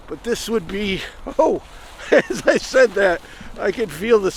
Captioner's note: chuckling